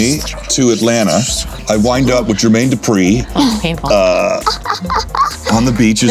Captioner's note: laughing